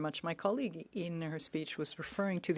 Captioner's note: speaking French